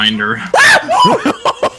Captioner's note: mutual yelps of surprise; laugh